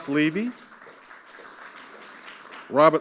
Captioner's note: audience applauding